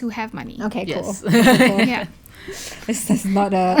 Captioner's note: laugh